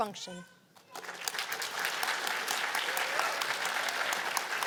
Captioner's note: applause